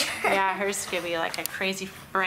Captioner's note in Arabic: يضحك